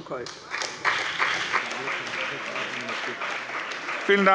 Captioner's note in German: Siehe Anlage 7 - Beifall bei der CDU und dem BÜNDNIS 90/DIE GRÜNEN